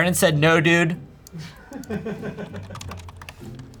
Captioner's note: crew laughs